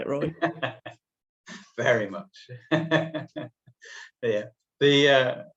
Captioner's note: laughter